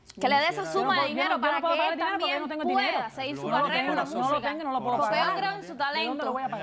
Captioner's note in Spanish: Hablan al unísono